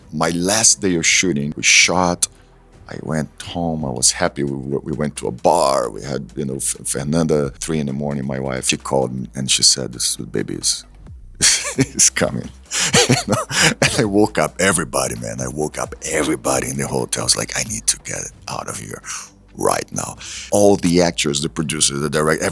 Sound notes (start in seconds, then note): 13.4 laughs